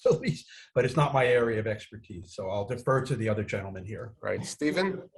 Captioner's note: laughs